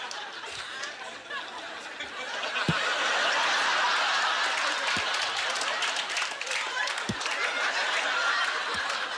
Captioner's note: audience laughter; applause